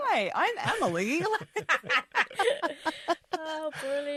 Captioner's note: laughs